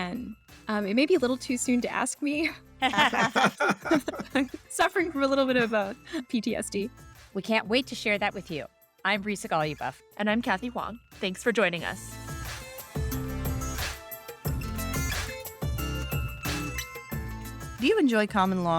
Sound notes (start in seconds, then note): 2.8 laughter; 11.2 theme music up, then under